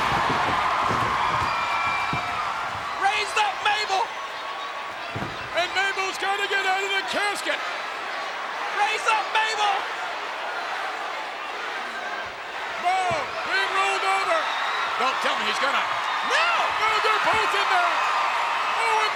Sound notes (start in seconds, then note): 0.3 audience cheers; 10.9 audience chanting; 18.0 audience cheers